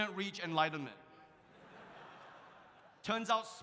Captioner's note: audience laughs